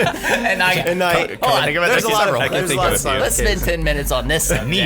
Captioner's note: laughing; all talking excitedly